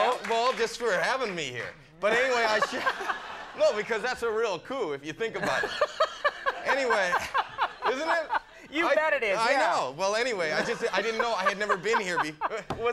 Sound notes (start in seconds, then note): 2.8 Conan chuckling; 5.5 Conan chuckling